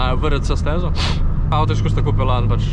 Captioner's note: sniffs